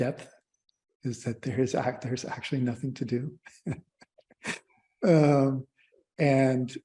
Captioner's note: laughter